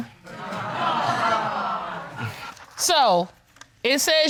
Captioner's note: audience titters